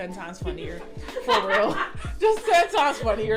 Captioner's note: off screen laughter